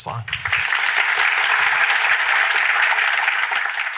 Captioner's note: applause